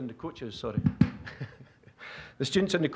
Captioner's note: laughing